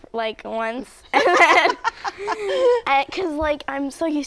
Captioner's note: laughter